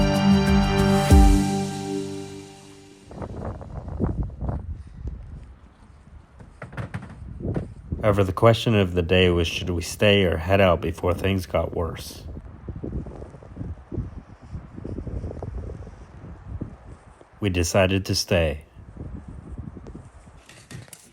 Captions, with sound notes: (suspenseful music) (wind rustling) The question of the day was, should we stay or head out before things got worse? We decided to stay.